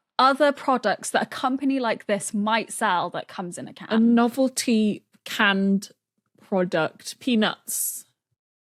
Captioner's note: none